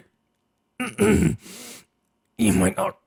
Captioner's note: clears throat